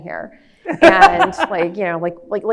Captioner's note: laughs